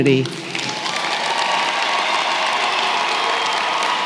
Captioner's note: applause